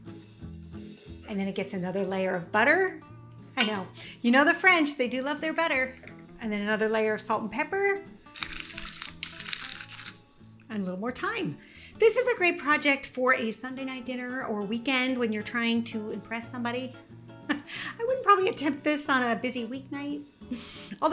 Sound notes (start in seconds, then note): 0.2 light music continues; 8.3 pepper cracking